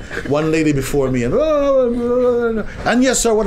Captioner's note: makes sounds of busy, noisy market